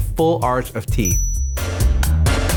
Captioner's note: bell ding